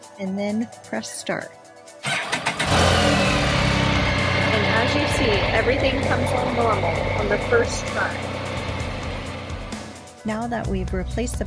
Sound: motorcycle engine starts

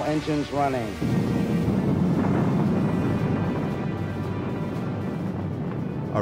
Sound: rumbling

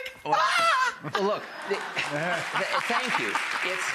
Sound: audience claps

